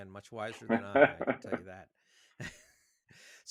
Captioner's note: chuckles; chuckles